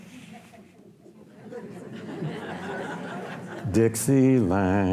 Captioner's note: audience laughs